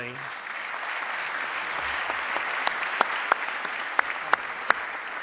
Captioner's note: applause